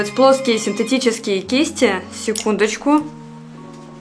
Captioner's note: intercom ringing